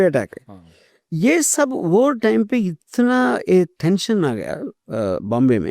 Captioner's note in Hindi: नाक से की जाने वाली आवाज़